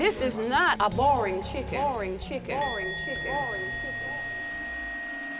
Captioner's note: "boring chicken" echoing